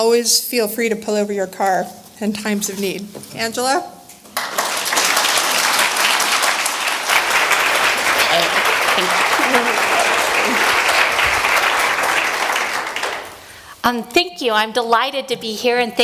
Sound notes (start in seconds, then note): 8.7 applause